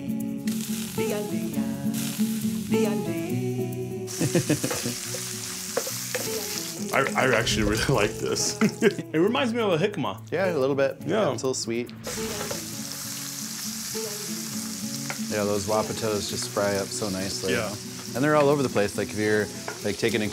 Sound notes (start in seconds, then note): 4.1 chuckling